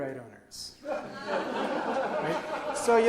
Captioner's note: audience laughs